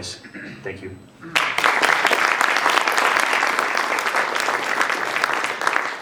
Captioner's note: applause